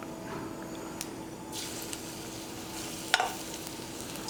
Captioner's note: sizzling